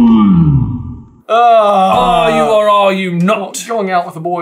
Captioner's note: accented